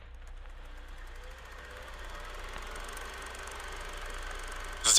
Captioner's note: Insert VHS sound effect for extra pretentiousness points